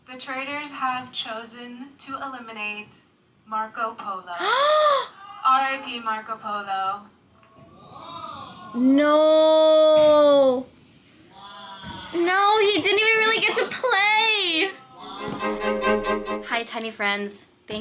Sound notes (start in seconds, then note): 4.3 gasping; 7.8 cast members exclaiming; 15.4 bright music